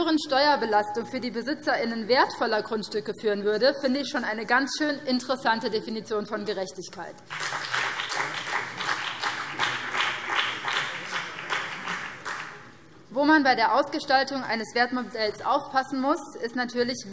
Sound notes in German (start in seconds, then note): 7.2 Beifall BÜNDNIS 90/DIE GRÜNEN